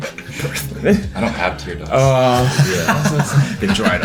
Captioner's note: everyone chuckles; chuckles